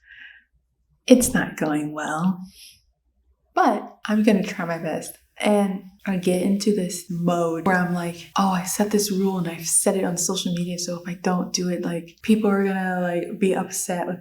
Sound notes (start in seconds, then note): 2.5 exhale